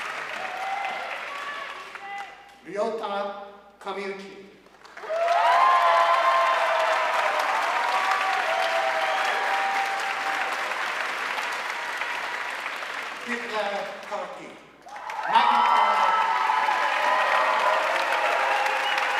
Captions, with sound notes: Ryota Kamiuchi. (audience cheering and applauding) Biplab Karki, magna cum laude.